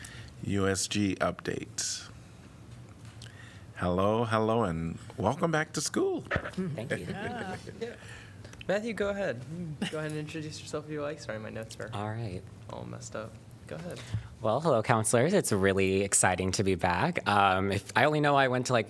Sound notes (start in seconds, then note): 6.6 laughter